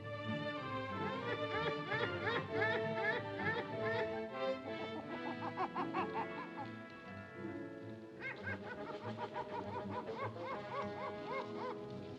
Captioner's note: ominous music; monkey hoots; ominous music